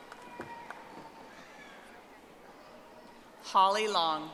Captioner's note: audience applauding